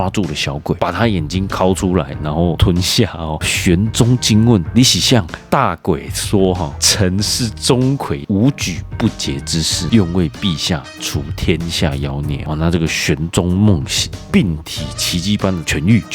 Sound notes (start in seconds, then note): 5.7 taiwanese Hokkien